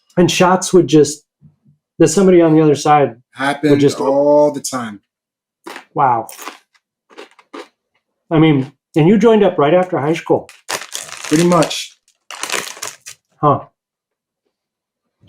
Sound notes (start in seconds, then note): 7.1 chips crunching; 10.4 bag crinkling